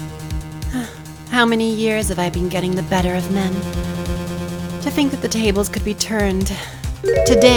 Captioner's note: sigh